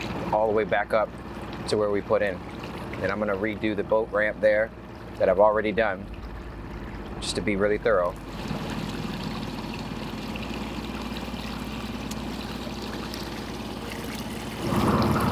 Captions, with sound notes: all the way back up to where we put in. And I'm gonna redo the boat ramp there that I've already done, just to be really thorough. (boat rustling)